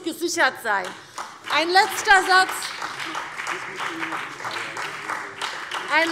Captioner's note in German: Beifall